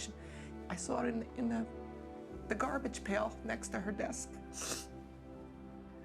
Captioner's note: sniffs